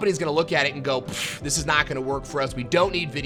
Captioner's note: puffing